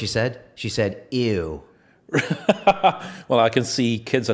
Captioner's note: laughing